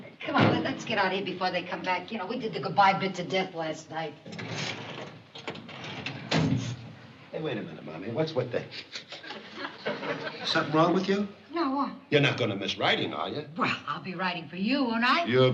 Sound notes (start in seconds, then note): 9.5 sniffles